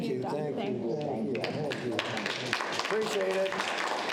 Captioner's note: audience applauds